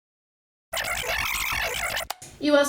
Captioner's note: rewinding